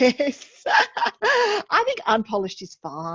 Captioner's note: chuckles